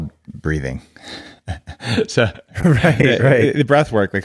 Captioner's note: both laughing